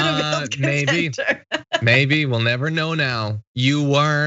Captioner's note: laugh